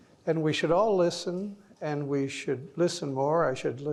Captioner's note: none